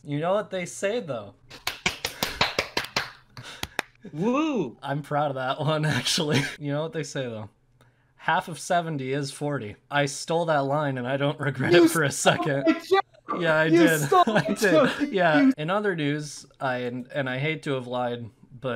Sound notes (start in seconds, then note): 1.6 audience members applaud; 3.9 audience member cheers; 6.2 laughs